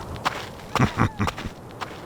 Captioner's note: KIA chuckles